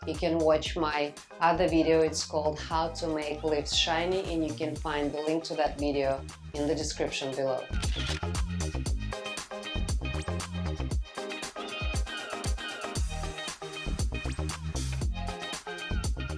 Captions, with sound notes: you can watch my other video, it's called "How to make leaves shiny" and you can find the link to that video in the description below. (upbeat music) (camera snapping)